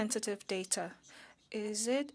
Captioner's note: speaking French